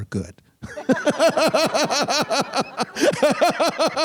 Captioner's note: group laughing